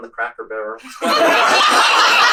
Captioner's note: laughter